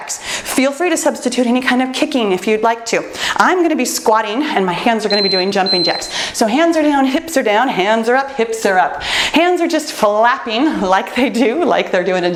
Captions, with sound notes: Feel free to substitute any kind of kicking if you'd like to. I'm gonna be squatting (timer beeps) and my hands are gonna be doing jumping jacks, so hands are down, hips are down. Hands are up, hips are up! Hands are just flapping, like they do, like they're doing